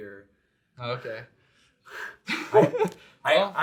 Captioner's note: all laughs